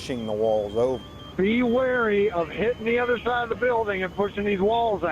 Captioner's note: radio traffic - Fire 5